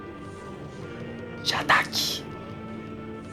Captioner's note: whisper